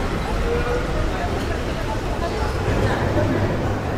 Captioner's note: street noise